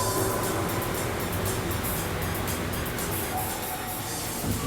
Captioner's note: comet sizzles